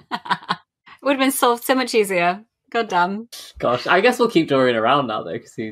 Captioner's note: laughing